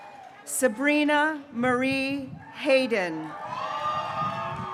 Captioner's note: graduates cheering